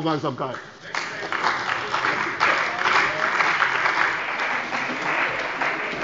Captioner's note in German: Beifall bei der CDU und dem BÜNDNIS 90/DIE GRÜNEN